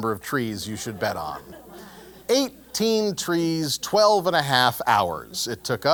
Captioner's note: laugh